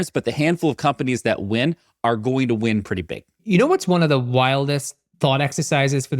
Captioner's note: none